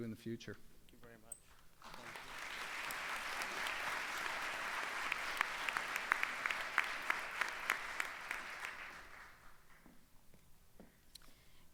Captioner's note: applause